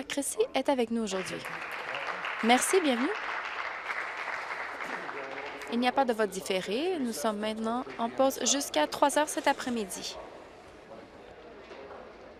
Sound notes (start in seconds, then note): 7.0 applause